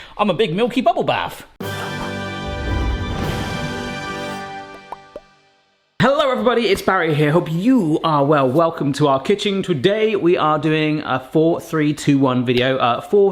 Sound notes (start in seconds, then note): 1.6 musical blast; 4.6 popping